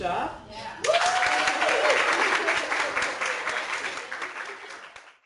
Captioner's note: clapping